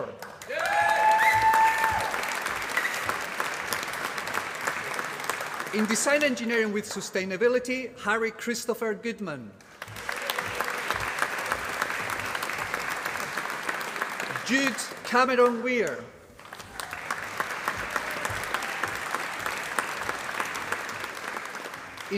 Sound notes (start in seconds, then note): 0.0 applause; 9.6 applause; 16.3 applause